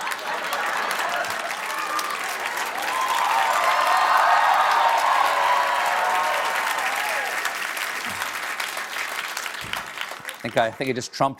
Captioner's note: applause